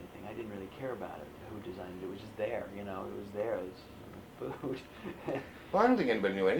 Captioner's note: laughs